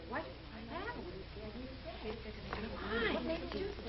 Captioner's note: girls murmuring